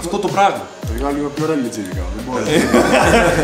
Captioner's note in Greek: γέλια